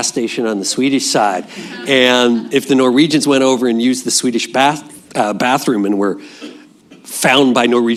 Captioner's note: laughter